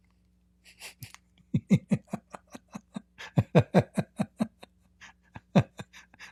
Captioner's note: Ketawa